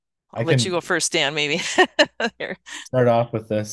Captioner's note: laughs